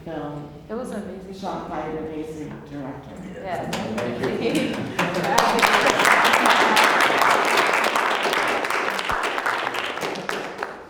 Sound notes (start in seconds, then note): 3.7 applause